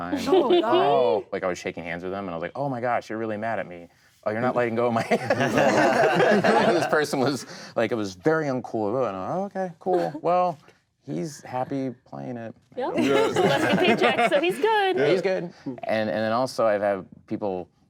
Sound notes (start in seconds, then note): 4.9 group laughing; 12.9 group laughing